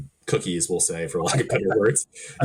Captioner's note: chuckling; laughing